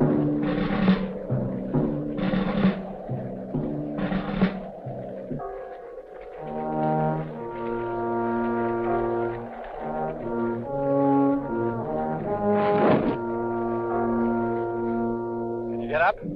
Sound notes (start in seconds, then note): 7.3 foreboding instrumental music; 12.1 thudding